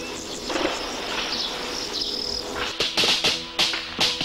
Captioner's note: birds chirp; guns fire